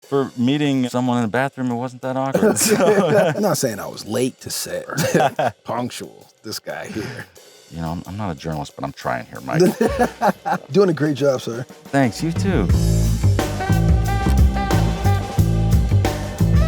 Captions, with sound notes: - For meeting someone in the bathroom, it wasn't that awkward. - I'm not saying I was late to set. Punctual, this guy here. - You know, I'm not a journalist, but I'm trying here, Mike. (Michael laughs) - Doing a great job, sir. - Thanks, you too. (groovy jazz music)